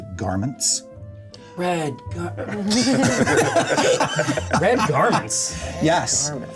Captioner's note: laughter